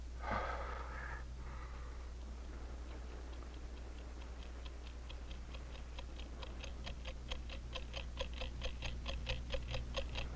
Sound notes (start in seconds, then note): 0.2 Tom sighing; 2.1 clock ticking rapidly